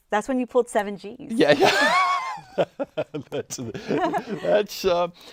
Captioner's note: laughing; laughs